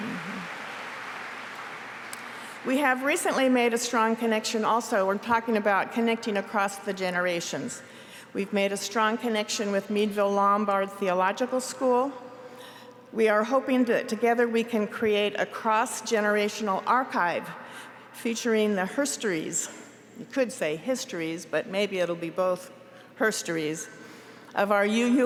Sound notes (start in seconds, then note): 3.1 applause